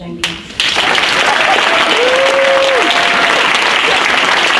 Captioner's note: audience applauds